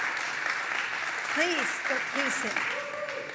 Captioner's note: applause